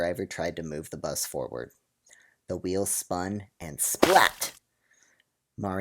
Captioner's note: splat sound